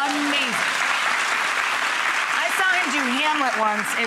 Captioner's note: audience applauds